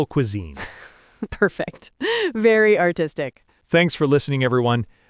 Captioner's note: laughing